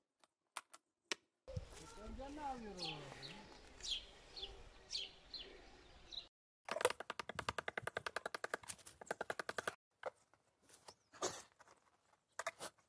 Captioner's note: the sound of people in the garden